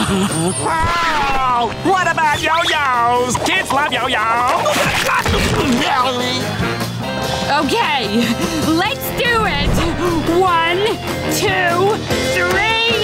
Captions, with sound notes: Pearl! What about yo-yos? Kids love yo-yos! [yelling] Okay, let's do it! One, two, three!